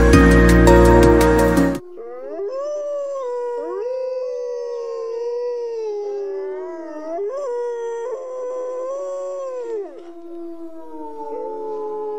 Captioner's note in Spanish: Aullido